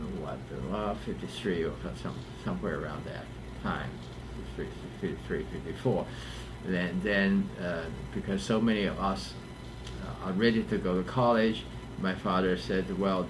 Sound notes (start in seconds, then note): none